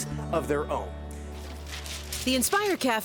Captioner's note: paper fluttering